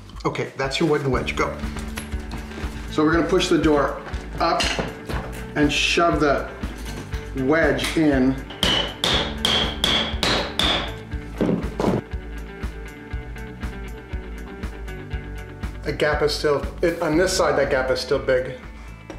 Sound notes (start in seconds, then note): 8.5 hammer clanking; 11.4 loud thump